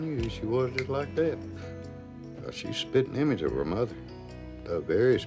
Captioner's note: snaps fingers